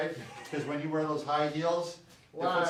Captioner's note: chuckles